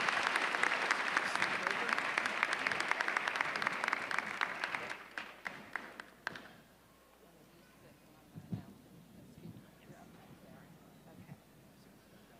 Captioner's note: applause